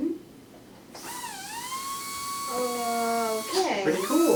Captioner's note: brush whirring